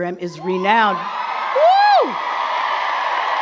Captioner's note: crowd clapping and cheering